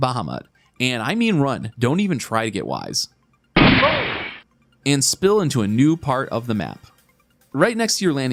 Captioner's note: gunshot